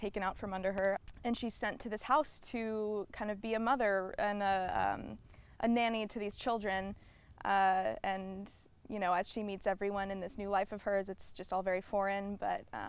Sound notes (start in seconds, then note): none